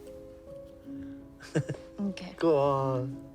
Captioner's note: Oscar chuckling